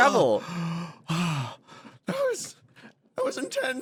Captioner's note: sighs